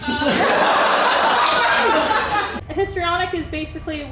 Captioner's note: laughter